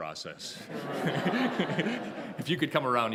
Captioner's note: laughter